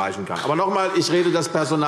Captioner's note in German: Beifall CDU